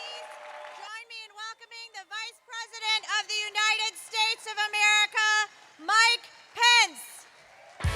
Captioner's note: applause